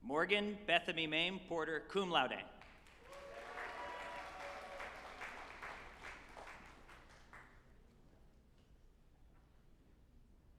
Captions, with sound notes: Morgan Bethany Mayme Porter, cum laude, (group applauding and cheering),